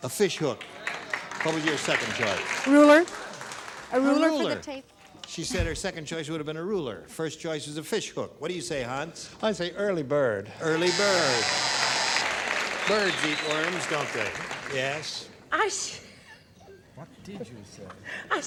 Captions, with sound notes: (applause) -What was your second choice? -A ruler. A rule for the tape. -A ruler. She said her second choice would have been a ruler. First choice is a fishhook. What do you say, Hans? -I say early bird. (buzzer) (applause) -Early bird. Birds eat worms, don't they? -Yes. -I said -- (laughs) -What did you say? -I said an apple.